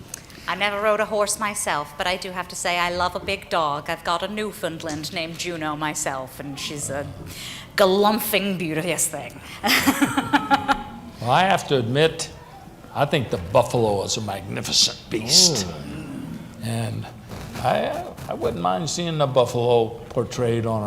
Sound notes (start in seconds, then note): 9.6 laughs